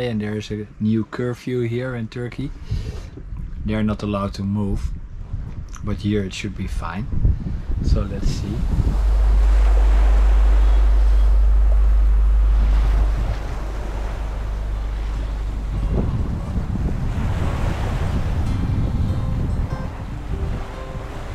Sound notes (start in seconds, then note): 8.9 waves crashing; 18.7 gentle music